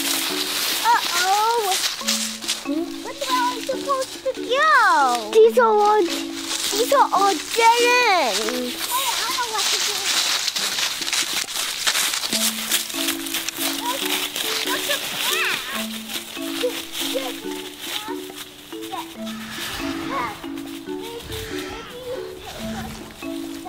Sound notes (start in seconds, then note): 10.1 footsteps rustle; 20.7 animal sounds